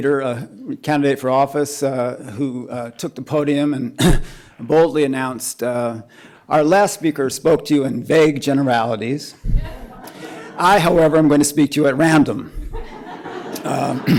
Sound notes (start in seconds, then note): 9.4 laughter